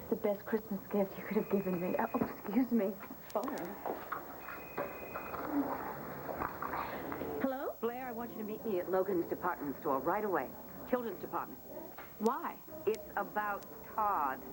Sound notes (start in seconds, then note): 3.4 telephone rings